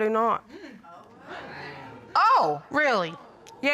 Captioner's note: audience exclaiming